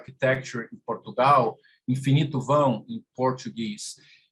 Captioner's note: speaking in portuguese